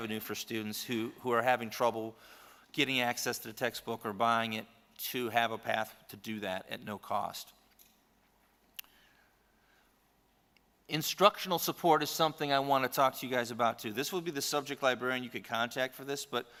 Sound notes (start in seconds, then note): 9.4 silence